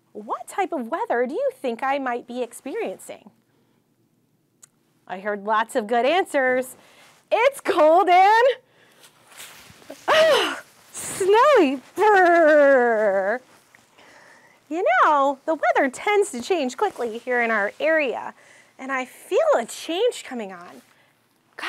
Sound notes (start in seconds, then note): 10.0 gasps